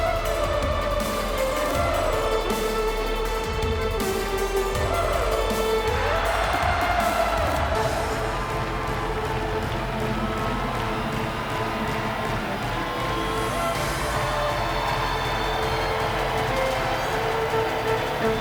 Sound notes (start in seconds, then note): 0.4 upbeat music continues; 7.5 audience cheers